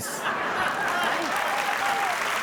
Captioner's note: audience laughing; audience clapping